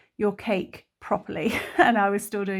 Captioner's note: laughs